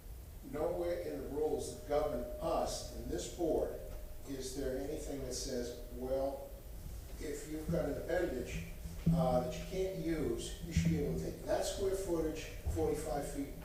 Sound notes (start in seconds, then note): 2.9 microphone feedback; 3.4 off microphone